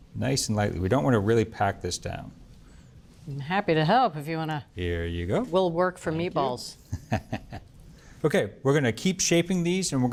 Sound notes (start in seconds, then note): 6.9 chuckles